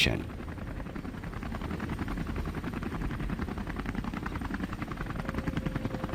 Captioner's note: helicopter propellers whirring